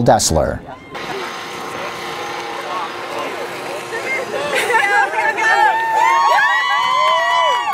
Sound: cheering

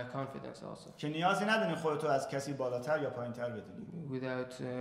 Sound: speaking in farsi

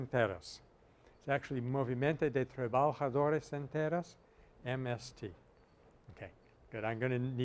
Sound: Spanish

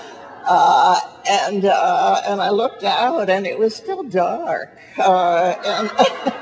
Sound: laughs; audience laughs

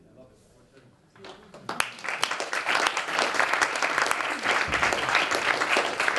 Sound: applause

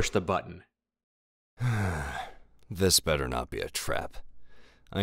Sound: sigh

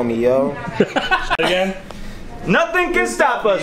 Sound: laughs

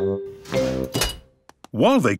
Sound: beeps

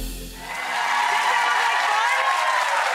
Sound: audience clapping and cheering

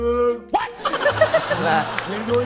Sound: laughing

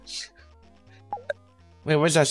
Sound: Solitaire notification sound

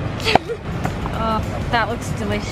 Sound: laughter

